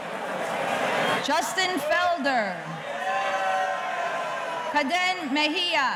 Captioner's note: audience cheering